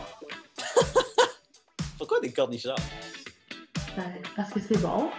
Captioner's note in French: rires